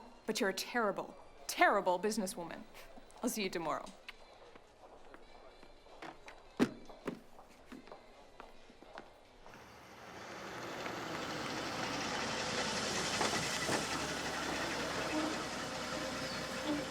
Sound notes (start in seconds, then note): 9.5 car engine whirring